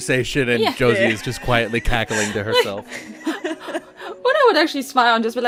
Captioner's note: laughter